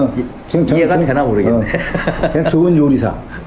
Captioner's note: laugh